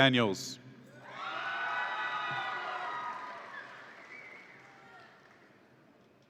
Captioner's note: audience applauds and cheers